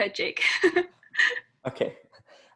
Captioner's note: laugh